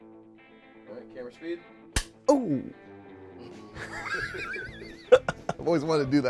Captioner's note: knock; laughs